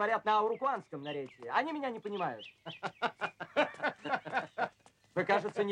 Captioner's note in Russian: Майор смеется